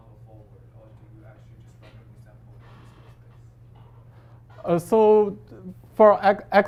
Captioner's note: faintly speaking